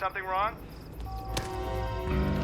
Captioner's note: line disconnects